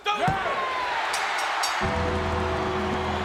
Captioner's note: crowd cheering; bell ringing; dramatic music